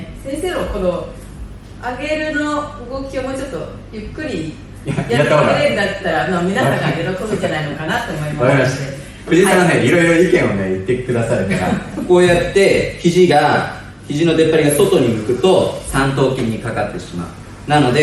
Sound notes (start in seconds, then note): 8.4 laughs